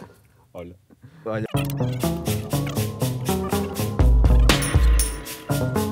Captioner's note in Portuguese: copo cai ao chão